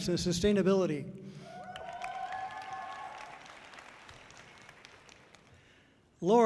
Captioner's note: audience cheering loudly